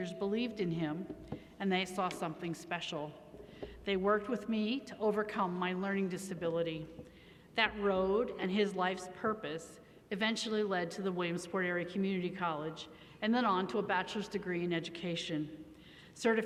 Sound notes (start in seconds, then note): none